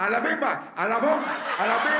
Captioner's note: chanting in Spanish